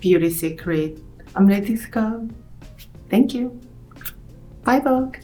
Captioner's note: lip smacking